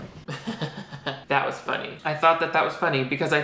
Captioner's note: laughs